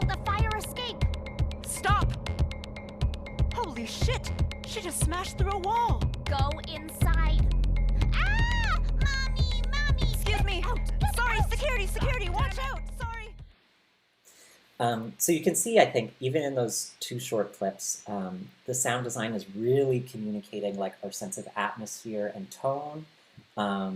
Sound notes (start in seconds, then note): 8.2 screams